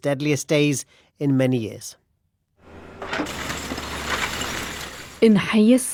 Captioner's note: debris falling